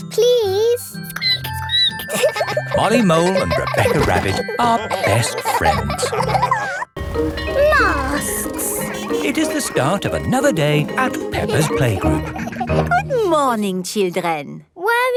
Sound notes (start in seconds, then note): 1.2 squeaking; 2.0 all laughing; 7.0 bell ringing